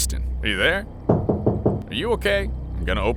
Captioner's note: door knocking